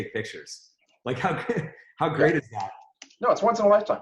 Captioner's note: laughs